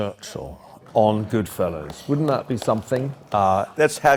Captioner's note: applause